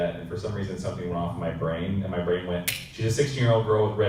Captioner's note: snap